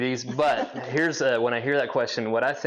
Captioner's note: laughs